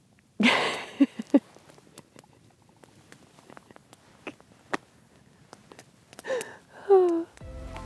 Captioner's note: laughing